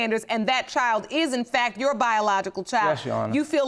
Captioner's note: none